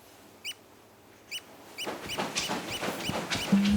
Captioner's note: flap